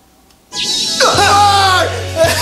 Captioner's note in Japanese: シュピーン音